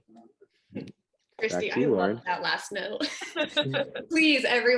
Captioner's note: laughs